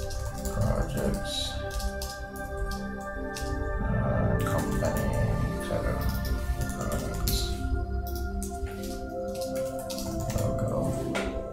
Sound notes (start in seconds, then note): 5.3 keys clacking